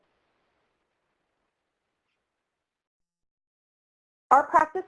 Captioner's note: silence